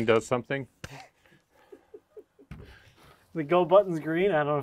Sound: laughing

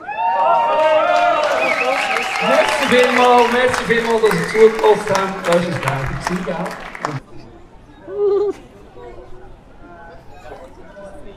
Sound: applause

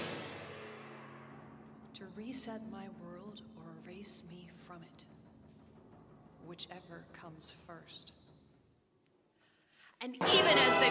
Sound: sudden quiet, except a few soft voices

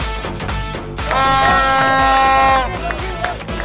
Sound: cheering

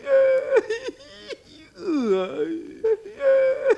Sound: whimpers and sobs

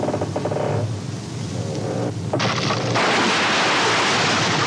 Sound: bridge creaking

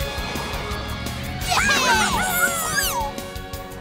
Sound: cheering

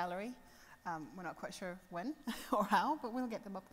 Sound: laughs

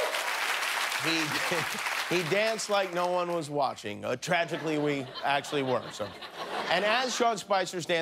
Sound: cheers and applause

